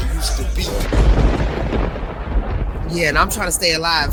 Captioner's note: thunder crashing